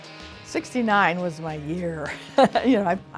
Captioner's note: chuckling